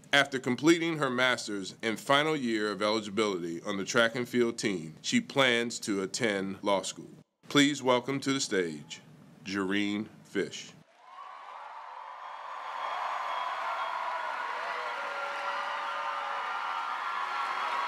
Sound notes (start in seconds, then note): 10.9 audience cheering